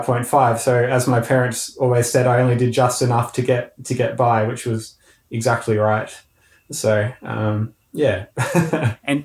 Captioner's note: laughing